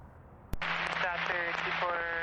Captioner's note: static